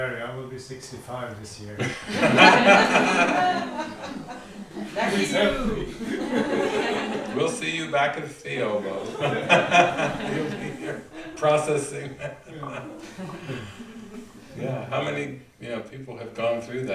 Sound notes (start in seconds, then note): 8.8 laughs